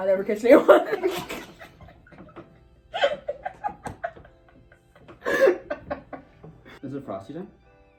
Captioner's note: both laugh